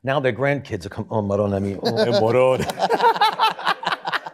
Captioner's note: muttering in Italian; laughter